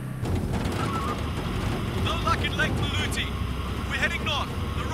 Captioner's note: Radio Beeping